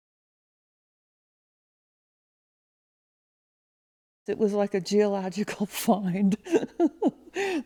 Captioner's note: laughs